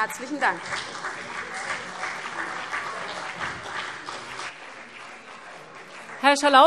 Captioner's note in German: Beifall CDU und BÜNDNIS 90/DIE GRÜNEN